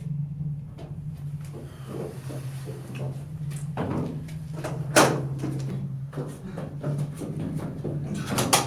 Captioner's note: heavy distant footsteps and body being dragged down stone steps; door unlocked